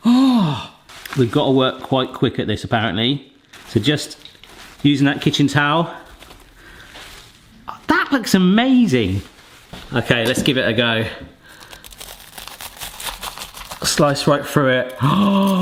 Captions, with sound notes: Oh, we've gotta work quite quick at this apparently. So just using that kitchen towel, that looks amazing. Okay, let's give it a go. (scotch egg crunching) Slice right through it (sighs).